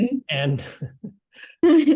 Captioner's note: laugh